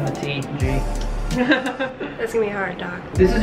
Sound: dentist laughing

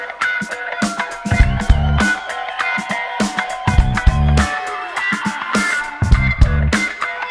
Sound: audience cheers

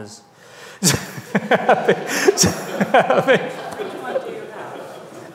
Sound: audience laughs

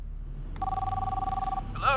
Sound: phone rings

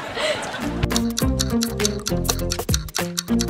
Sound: clock ticking

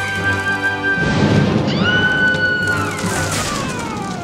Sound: screaming

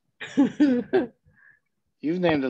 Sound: chuckles

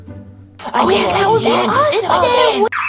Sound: space noises; excited whispering; alarm

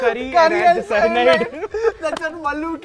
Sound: laughter

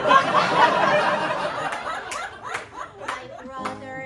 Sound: laughter

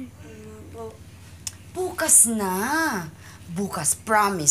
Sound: clicks tongue

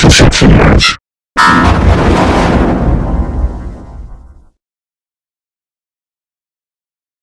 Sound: 20-Eyed Devil Windows XP Shutdown Sound

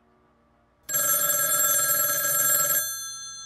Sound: phone rings

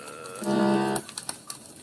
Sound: glitch

